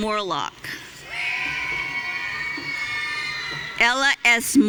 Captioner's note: audience cheering